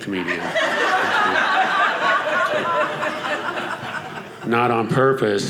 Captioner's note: audience laughing